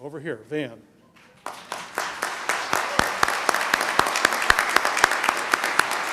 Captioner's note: applause